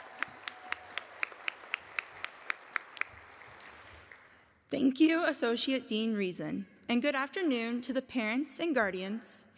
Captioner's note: applause